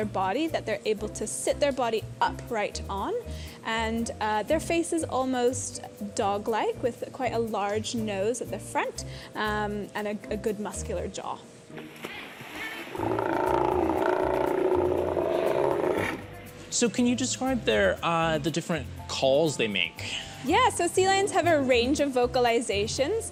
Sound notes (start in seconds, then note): 12.9 growling